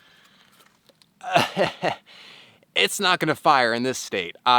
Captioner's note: laughs